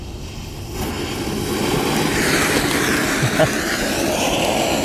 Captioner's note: fireworks hissing